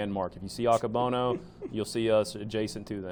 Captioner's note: laughs